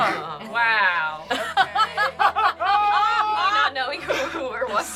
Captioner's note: group laughs